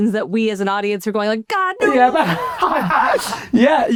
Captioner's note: laughs